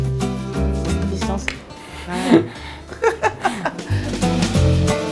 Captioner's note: laughs